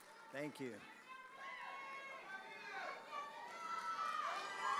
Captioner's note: students shouting